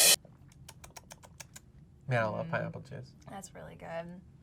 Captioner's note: smacks lips